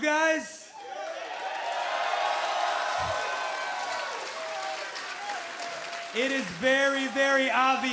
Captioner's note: crowd cheering